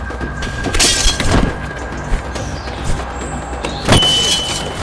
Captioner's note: glass shattering